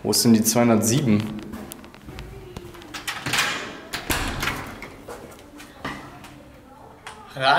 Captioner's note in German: Tür geht auf